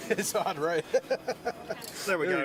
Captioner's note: laughter